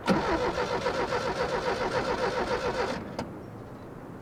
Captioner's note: starting the engine